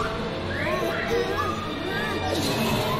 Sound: whimpers

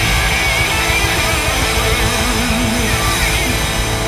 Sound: crowd cheers

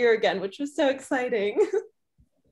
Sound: chuckles

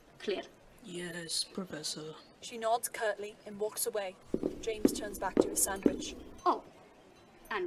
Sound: footsteps

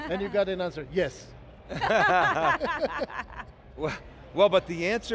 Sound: all laughs

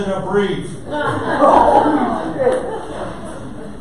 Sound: audience laughter

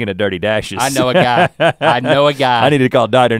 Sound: Rhett laughs

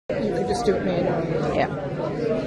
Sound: participants chatting loudly

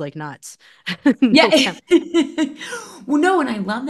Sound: laughing

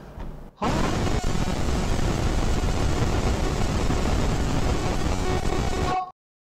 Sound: roar

